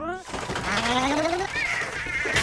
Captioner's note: shuddering; THUDDlNG